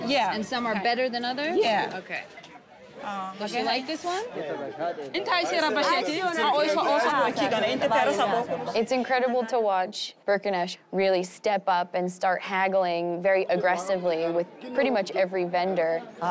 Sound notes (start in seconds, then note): 4.3 all speaking foreign language; 16.1 speaking foreign language